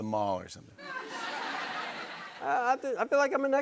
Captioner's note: laughter